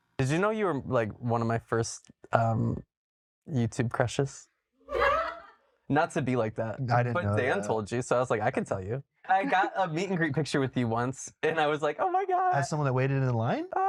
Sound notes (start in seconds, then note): 4.8 crew laughs